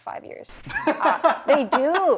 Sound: laughs

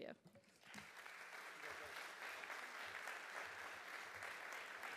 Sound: audience applauding

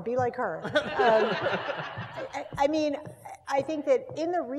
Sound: laugh

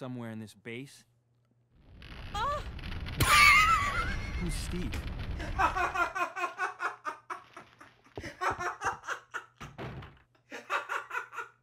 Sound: moans; laughs

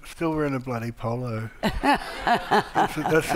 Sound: audience laughing

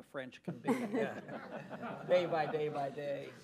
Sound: laughter

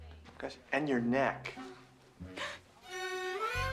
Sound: gasps

